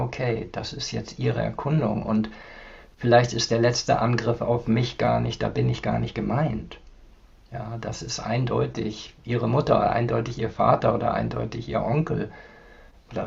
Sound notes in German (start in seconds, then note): none